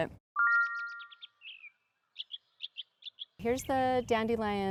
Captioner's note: birds chirping